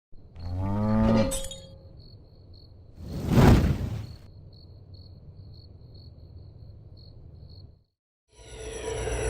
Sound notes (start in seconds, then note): 0.4 cow moos; 1.3 glass tinkles; 3.0 flames whoosh; 3.4 crickets chirp